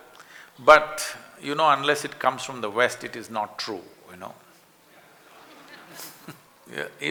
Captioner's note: laughter